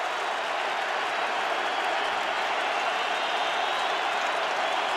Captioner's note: crowd cheering